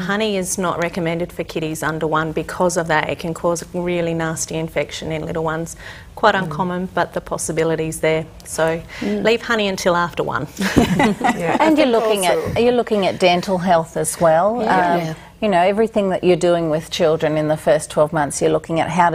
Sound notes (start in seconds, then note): 10.6 chuckling